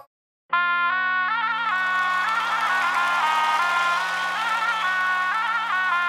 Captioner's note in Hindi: भीड़ ताली बजाते हुए